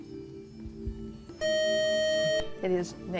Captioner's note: buzzer